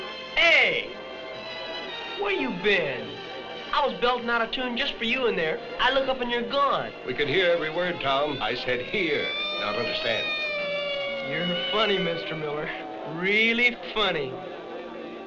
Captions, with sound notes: - Hey, where you been? I was belting out a tune just for you in there. I look up, and you're gone. - We could hear every word, Tom. I said, hear, not understand. (siren ringing) - You're funny, Mr. Miller, really funny.